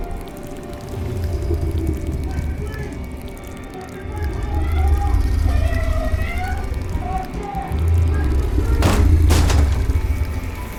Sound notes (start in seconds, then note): 5.0 distant shouting; 8.3 thudding; 10.6 moist sounds